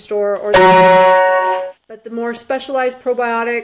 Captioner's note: beep